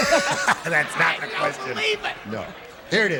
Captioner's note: laughters